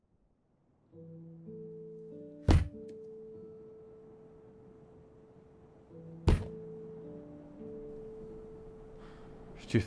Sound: the sound of a ball being thrown on the floor

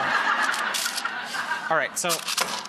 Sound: audience laughter

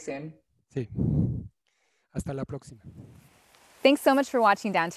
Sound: speaking in foreign language

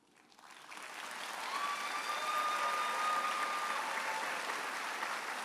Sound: audience applauding and cheering

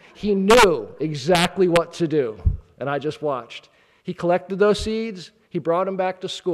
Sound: none

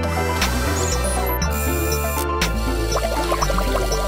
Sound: mechanical sounds

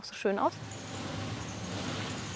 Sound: mechanical noises

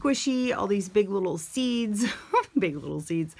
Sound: chuckling

